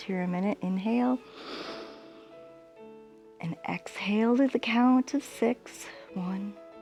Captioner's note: inhales